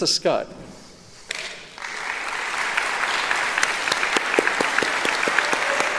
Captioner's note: applauding